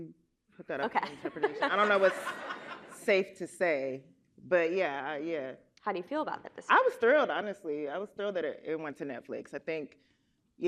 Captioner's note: laughter